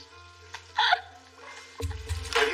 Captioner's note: both laugh